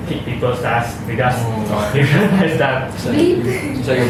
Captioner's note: laughs